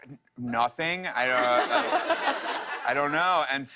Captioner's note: laughter